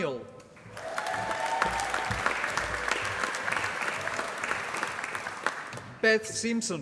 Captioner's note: applause